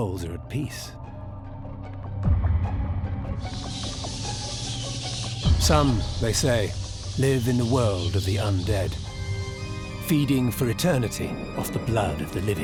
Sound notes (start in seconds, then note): 2.2 bats screeching